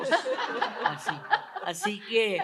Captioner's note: risas